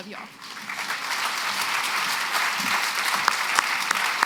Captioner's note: applause